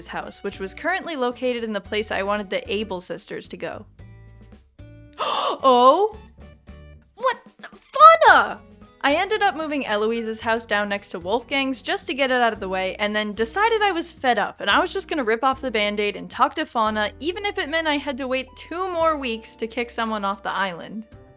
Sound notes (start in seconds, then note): 5.1 gasp